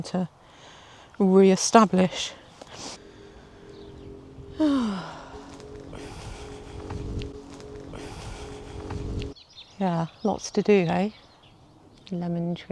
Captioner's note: sighs